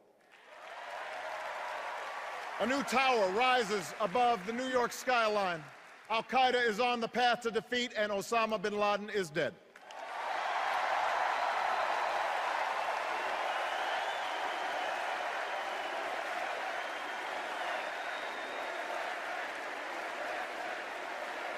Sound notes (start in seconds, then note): 0.2 cheers and applause; 10.6 extended cheers and applause